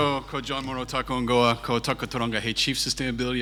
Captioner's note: speaks in foreign language